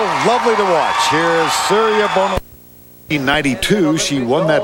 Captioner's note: crowd Cheering